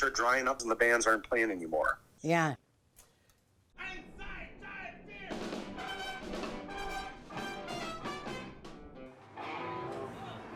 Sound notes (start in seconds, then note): 3.8 muffled yelling; 5.1 fast polka music